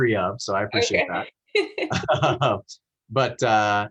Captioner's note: laughing